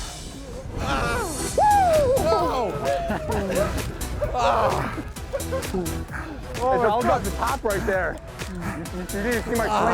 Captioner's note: cheers